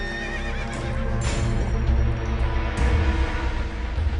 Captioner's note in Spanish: Relinchos